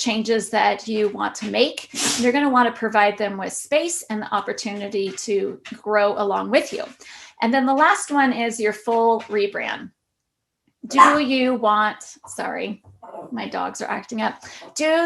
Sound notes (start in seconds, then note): 11.0 dog barking